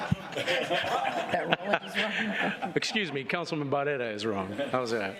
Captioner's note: laughter